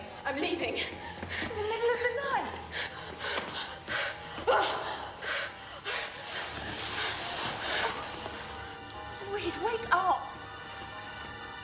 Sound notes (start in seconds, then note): 4.4 Louise gasping and grunting